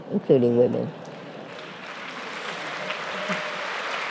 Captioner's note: applause